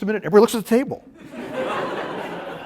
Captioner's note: laughter